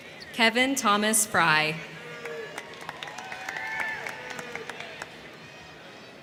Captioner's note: crowd cheering